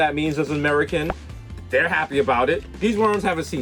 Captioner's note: pops